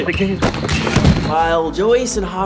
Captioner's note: thud